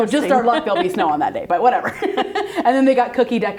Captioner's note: laughs